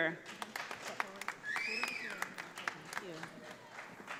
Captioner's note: audience applauding